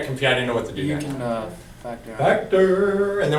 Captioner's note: voiceover